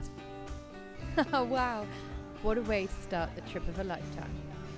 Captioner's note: laughing